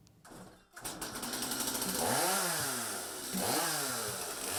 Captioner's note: whirring of the chain saw